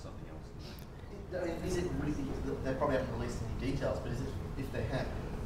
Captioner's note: voiceover